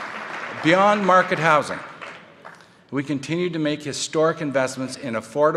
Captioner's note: applause